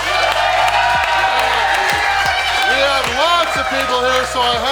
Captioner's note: crowd cheering